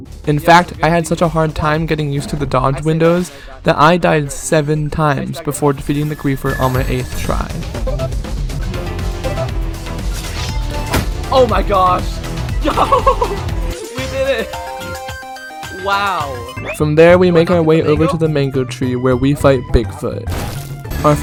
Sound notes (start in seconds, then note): 12.6 laughing